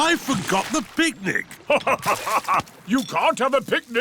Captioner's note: laughs